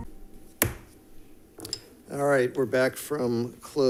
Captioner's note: gavel banging